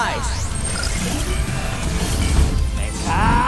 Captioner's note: beeping, whirring